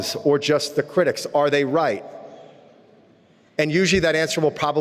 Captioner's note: none